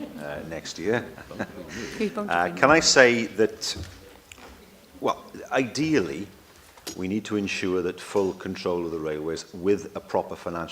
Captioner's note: laughter